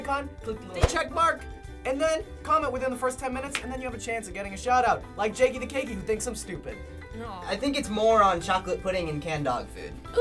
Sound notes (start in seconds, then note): none